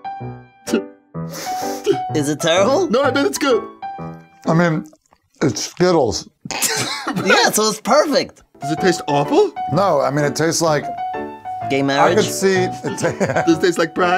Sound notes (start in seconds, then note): 0.7 snicker; 6.5 snicker; 12.8 laughter